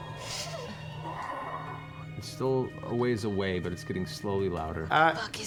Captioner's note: creepy exhale